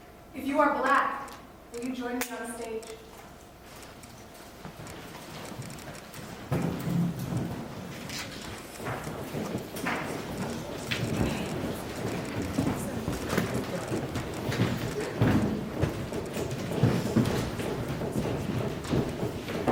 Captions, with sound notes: If you are black, would you join us on stage. (chairs scraping) (footsteps stomping)